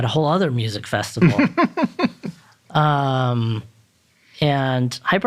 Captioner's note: chuckling